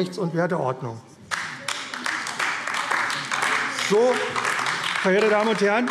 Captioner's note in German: Beifall AfD - Zuruf BÜNDNIS 90/DIE GRÜNEN: Wieder falsch!